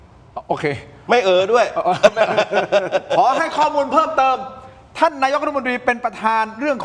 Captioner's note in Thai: เสียงหัวเราะ